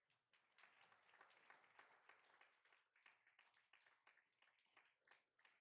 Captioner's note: attendees applauding